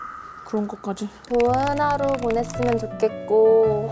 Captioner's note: suddenly skillful typing sounds